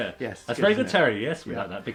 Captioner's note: laughs